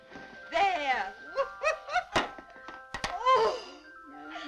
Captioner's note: laughing